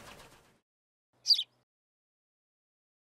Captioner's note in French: chant d’oiseau